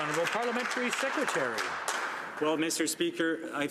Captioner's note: some Applause